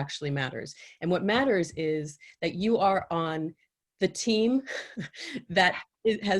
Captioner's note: chuckles